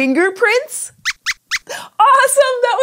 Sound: squeaks squeaks

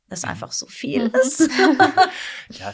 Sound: laughter

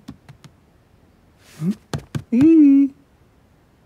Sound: pats table

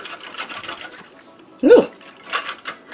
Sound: sound of tiredness

